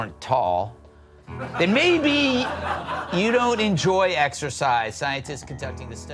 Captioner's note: laughing